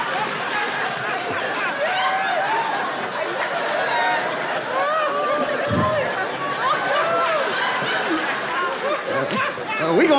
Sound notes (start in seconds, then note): 2.7 laughs